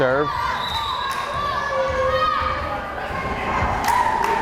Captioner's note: whistle blares